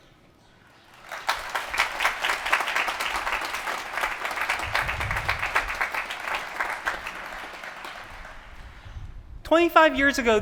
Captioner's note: applause